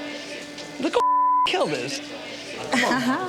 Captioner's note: beep